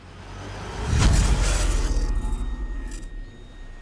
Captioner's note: zapping